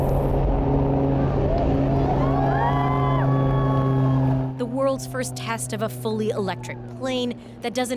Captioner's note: cheers and Applause